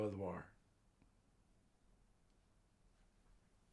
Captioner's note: pauses 6 seconds